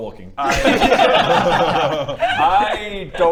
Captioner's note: laughs